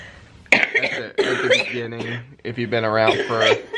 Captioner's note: coughing